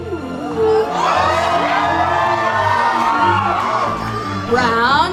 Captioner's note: cheering